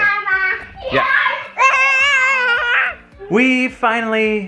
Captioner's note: playful screams; babbling